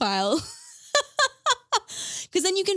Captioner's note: laughing